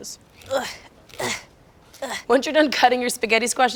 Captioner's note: groans